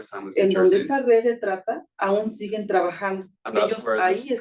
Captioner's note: speaking Spanish